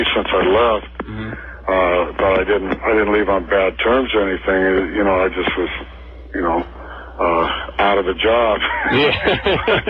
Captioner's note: laughs